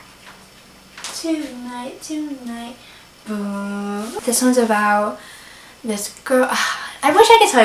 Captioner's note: sigh